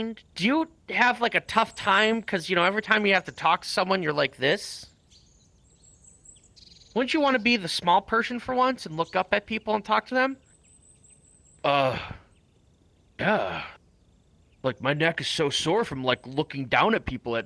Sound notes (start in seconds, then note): 11.6 deep voice